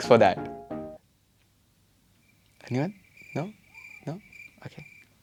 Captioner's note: crickets